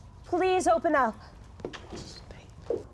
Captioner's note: mutters quietly